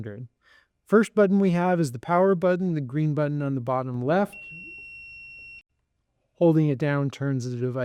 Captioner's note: device beeps